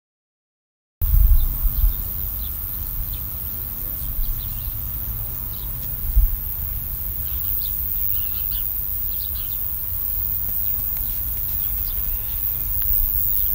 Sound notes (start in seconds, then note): 1.1 sound of field